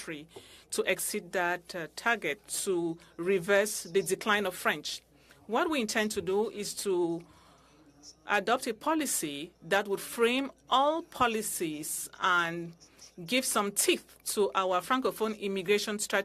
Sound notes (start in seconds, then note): 2.7 speaking french